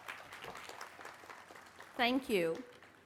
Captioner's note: applause